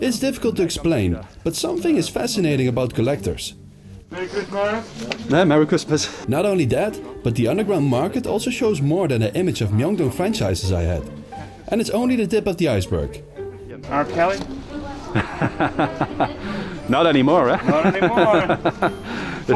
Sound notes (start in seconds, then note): 15.0 laughing; 15.1 웃음